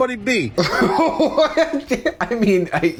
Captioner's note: laughs